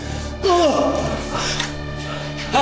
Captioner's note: Siegmund groaning; knife clinking